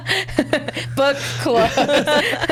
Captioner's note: laughs